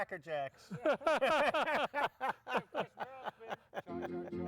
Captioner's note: laughs